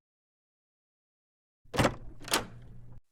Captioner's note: door opens